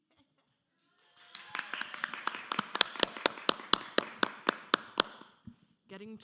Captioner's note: audience cheering and applauding